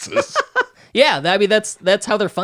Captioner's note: laughing